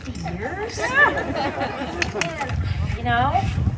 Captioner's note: laughter